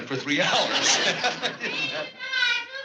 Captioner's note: laughs